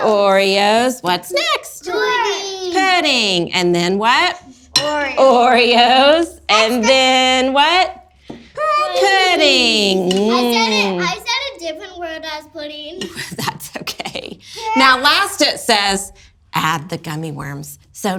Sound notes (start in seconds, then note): 13.2 laughs